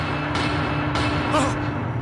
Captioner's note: gasps